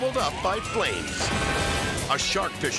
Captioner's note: sirens blaring; roof exploding